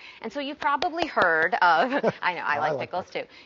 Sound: clapping

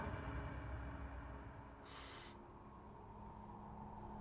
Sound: EXHALlNG

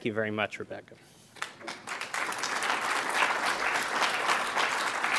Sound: applause

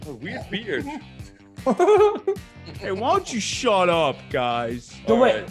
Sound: laugh

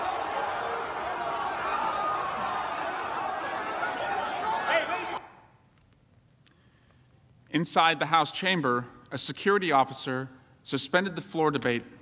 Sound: yelling

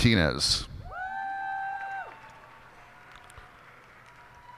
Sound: cheers and applause

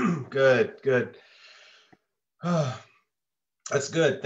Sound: exhales

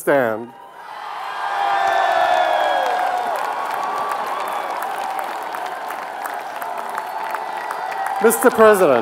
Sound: applause

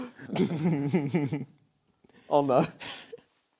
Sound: laughing

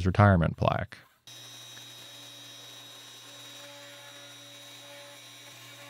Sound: pantograph whirring

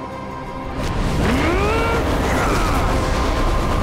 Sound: grunting

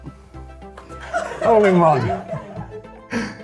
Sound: laughter

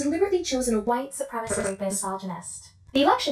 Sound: glitch

